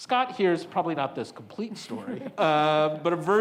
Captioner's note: panelists chuckles